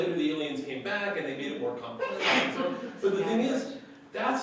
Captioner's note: laughter